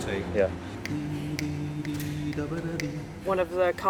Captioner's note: choirmaster humming melody